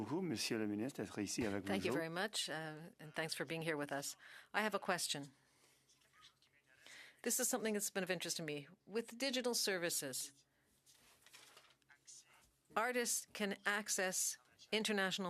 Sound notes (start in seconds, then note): 4.5 speaking French